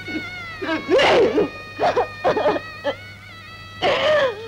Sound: crying

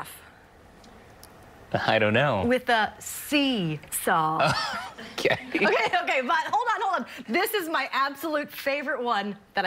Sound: laughter

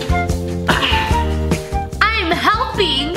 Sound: sighs

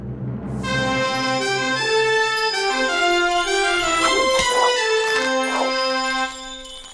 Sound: horn blowing

